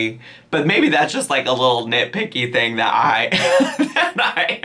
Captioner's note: laughs